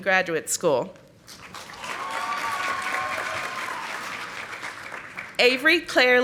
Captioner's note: audience applauding